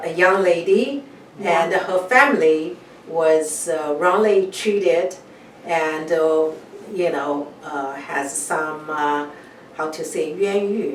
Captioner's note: speaks in Chinese